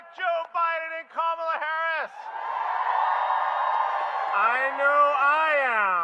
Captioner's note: applause